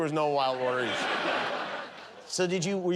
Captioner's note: laughter